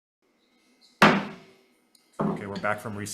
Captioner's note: gavel bangs